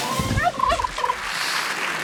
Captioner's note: turkey gobbles; audience clapping